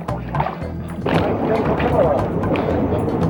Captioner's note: splash